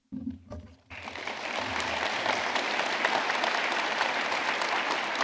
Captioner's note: audience clapping